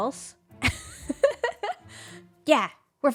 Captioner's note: laughs